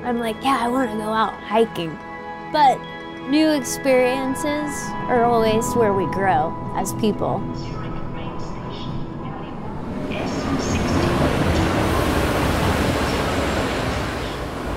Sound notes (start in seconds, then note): 9.5 train screeching